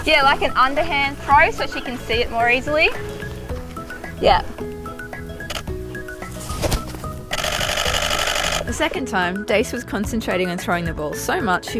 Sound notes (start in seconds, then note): 5.6 camera shutters; 7.3 camera shuttering rapidly